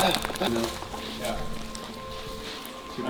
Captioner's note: birds chirping